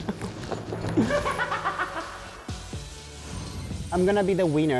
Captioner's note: echoing laugh